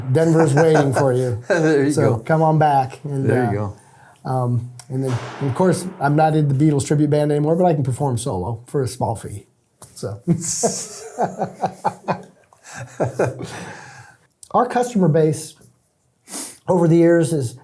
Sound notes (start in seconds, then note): 0.0 laughing; 10.3 both laughing